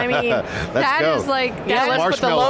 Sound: laughs

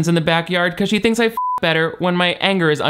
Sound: beep

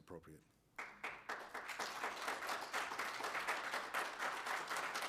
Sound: applause

